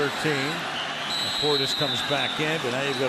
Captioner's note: whistles